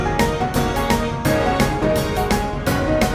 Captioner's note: none